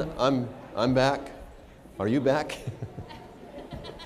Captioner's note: laughter